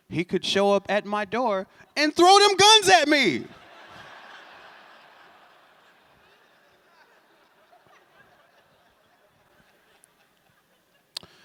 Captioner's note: laughter